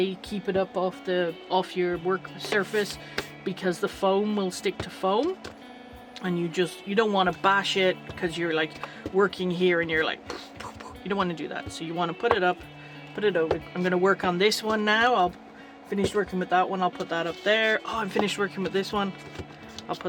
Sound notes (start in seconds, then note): 10.3 fight noises